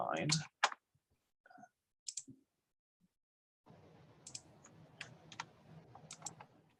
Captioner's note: keyboard typing; mouse clicking